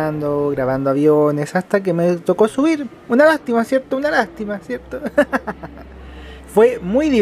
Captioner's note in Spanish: risas